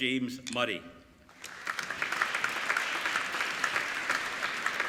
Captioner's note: applauding